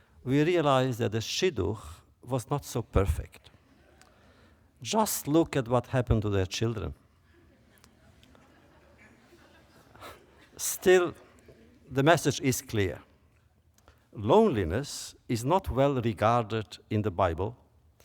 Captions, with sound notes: we realize that the shidduch was not so perfect. (laughter) Just look at what happened to their children. (laughter) Still, the message is clear: loneliness is not well regarded in the Bible,